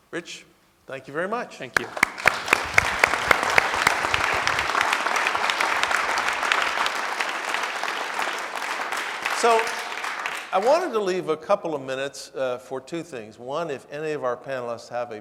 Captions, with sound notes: - Rich, thank you very much. - Thank you. (audience clapping) - So, I wanted to leave a couple of minutes for two things. One, if any of our panelists have